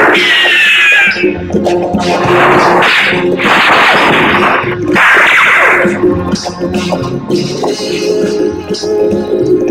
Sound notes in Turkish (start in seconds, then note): 2.0 Silah sesleri